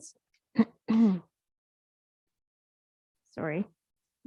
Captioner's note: throat clearing